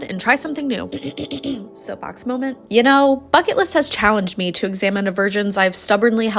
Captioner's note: clears throat